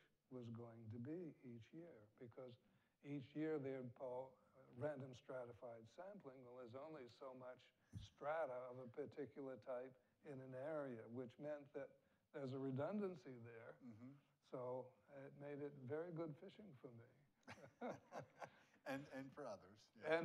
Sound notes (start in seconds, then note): 17.4 both laugh